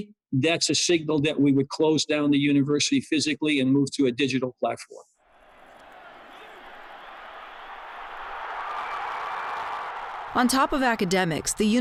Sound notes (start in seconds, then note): 5.3 spectators cheering